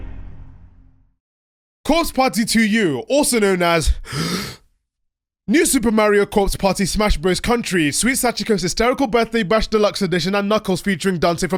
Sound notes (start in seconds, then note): 4.0 breath